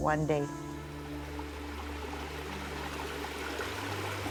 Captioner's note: water gurgling